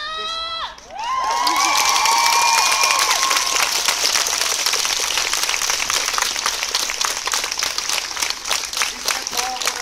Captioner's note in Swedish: Jubel och applåder